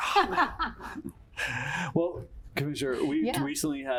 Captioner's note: laughter